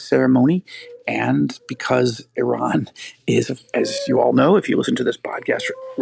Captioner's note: laughing